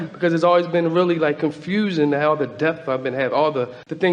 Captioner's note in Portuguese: none